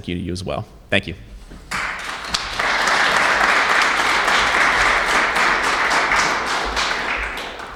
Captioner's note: applauses